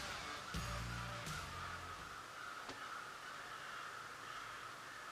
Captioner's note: birds cackle